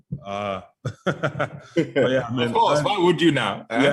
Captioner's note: both laughing